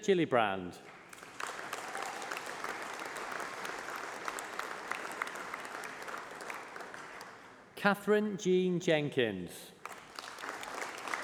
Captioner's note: applause